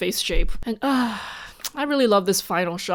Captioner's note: sigh